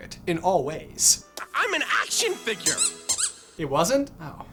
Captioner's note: squeaky squeaky